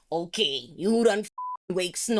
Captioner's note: beep